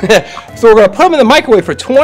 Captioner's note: laughs